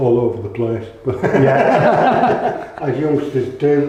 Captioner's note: laughter